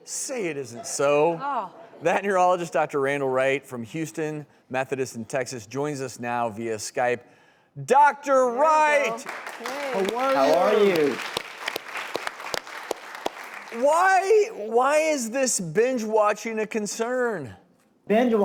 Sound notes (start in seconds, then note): 9.0 applause